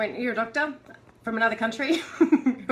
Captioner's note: laughter